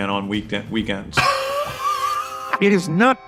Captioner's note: wheeze